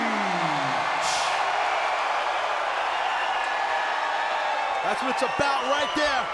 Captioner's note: audience cheering and clapping